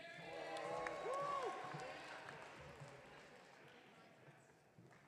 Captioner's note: audience cheering